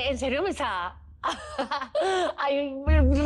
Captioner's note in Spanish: Risas